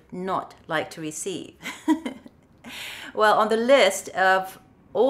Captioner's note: chuckles